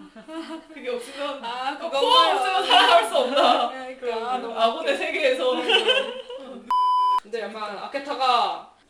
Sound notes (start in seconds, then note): 5.5 laughs